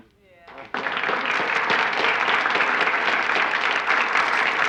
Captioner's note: applauding